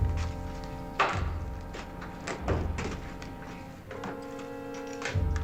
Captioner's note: clanking